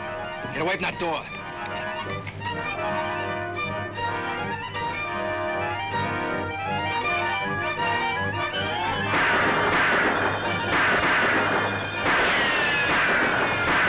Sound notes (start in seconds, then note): 8.7 guns firing; 12.0 bullets ricocheting; 13.7 bank alarm rings; 13.7 guns firing